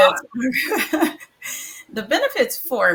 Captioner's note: laughs